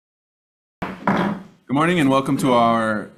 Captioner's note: loud thump